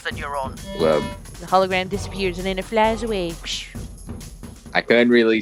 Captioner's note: imitates flying noise